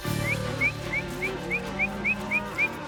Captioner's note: whistling